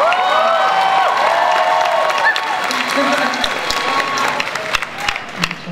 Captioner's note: audience cheering and applause; speaker muffled by applause